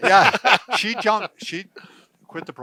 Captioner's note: men laughing